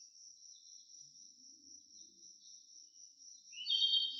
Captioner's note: birds chirping